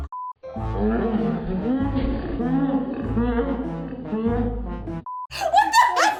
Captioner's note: laughs loudly; comical music; distorted laughing in slow motion; laughing